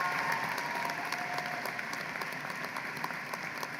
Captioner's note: applause